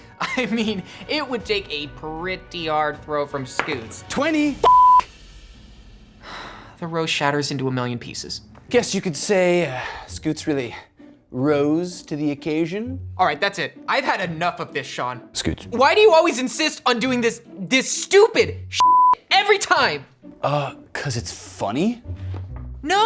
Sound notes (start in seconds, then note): 3.6 dice rolls; 4.6 beep; 6.2 sighs; 18.8 beep